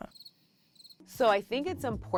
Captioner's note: crickets chirping